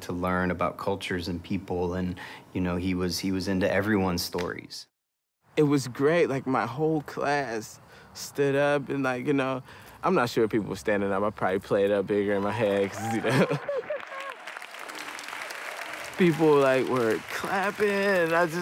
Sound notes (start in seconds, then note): 12.4 audience applauds; 12.8 laughs